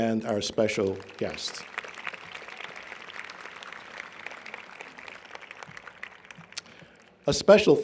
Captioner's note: applause